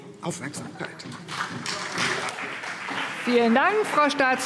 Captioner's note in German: Beifall CDU und BÜNDNIS 90/DIE GRÜNEN